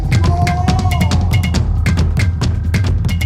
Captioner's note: man moans